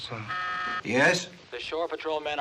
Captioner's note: buzzer